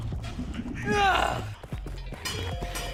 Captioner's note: sigh